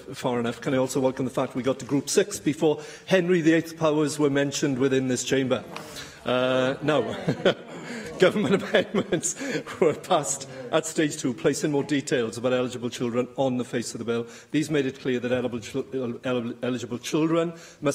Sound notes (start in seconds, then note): 7.0 laughter